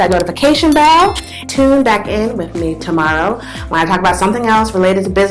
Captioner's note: click; bell